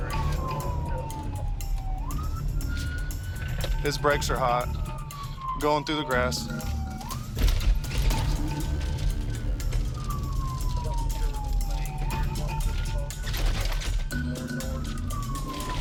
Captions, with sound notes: His brakes are hot. Going through the grass. [suspenseful music] [siren wailing]